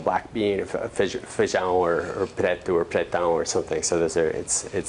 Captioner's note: non-english